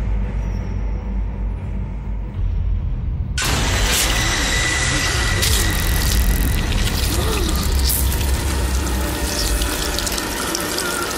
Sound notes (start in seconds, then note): 5.4 high voltage shock